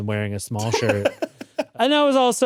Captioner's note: laughs